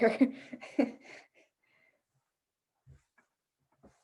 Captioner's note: chuckles